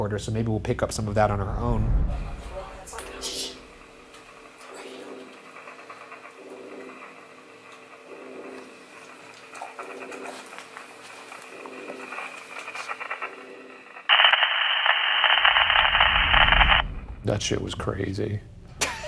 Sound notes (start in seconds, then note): 3.3 static